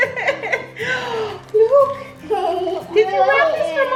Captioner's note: kids laughing; gasps